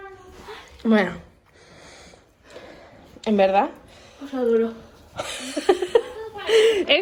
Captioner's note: laughs